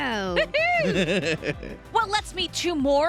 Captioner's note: laughs